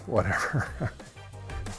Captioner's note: laughs; upbeat music